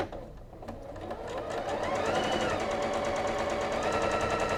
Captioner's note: machine whirs